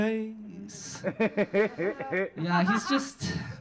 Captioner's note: audience laughing